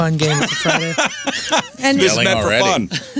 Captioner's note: laughing